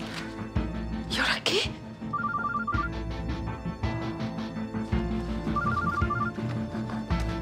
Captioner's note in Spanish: suena el celular